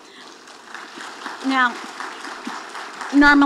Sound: audience applauding

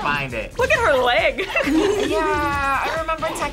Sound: laughs

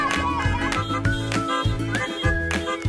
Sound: child laughing; cars honk

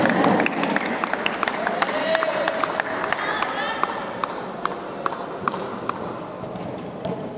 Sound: applause

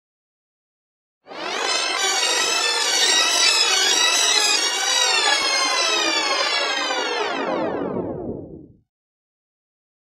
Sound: sound of tape rewind

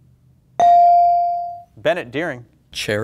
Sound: buzzer pings

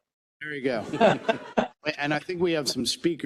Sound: laugh

